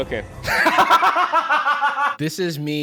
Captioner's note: laughs hysterically